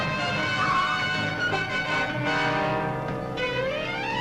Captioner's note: tires squealing